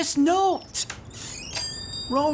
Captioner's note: door jangles